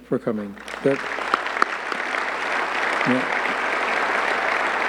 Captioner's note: audience clapping